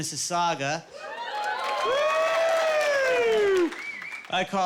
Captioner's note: all cheering